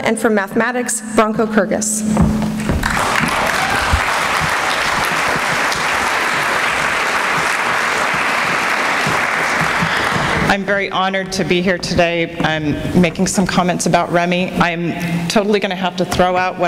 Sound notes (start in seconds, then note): 2.8 applause